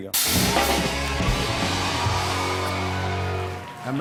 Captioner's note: cheers and applause